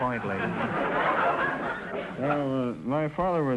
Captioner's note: audience laughter